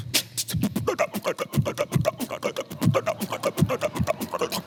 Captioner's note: beatboxes